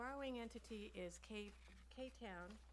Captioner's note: papers rustling